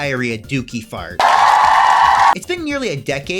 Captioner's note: crowd cheering